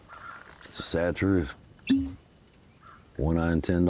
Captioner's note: cork pops